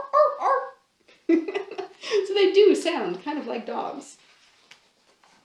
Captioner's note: laughs